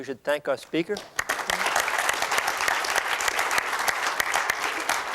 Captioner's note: applause